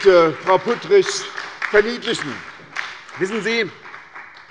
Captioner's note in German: Beifall bei der SPD, bei Abgeordneten der LINKEN und der FDP